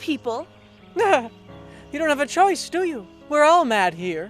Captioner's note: laughs